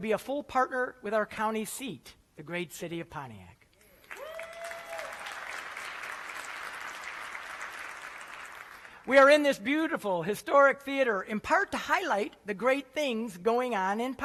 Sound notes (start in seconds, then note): 3.9 applause